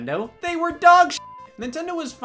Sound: beep

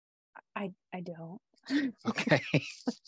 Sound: chuckles

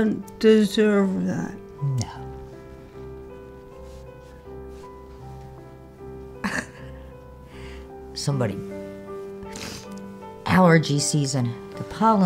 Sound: crying, sniffles

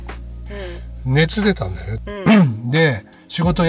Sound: laughs

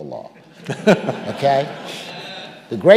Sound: audience laughing

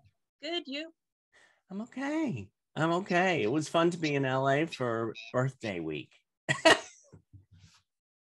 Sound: laughter

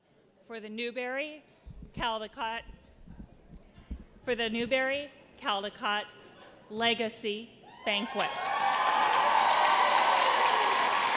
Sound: applause

